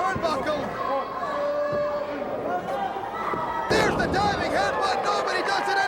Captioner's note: crowd chatter